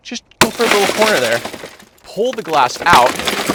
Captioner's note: glass shattering